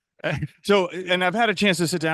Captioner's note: giggles